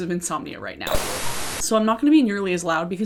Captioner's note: television static